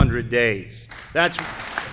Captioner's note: applause